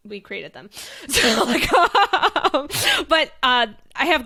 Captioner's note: laughing